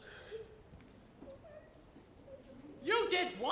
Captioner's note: mumbles